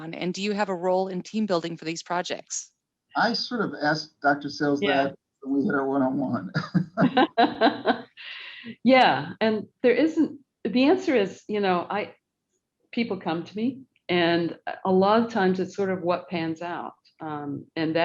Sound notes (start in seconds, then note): 6.3 both laughing